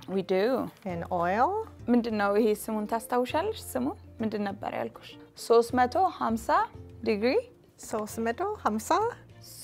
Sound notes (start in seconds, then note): 2.2 speaking Amharic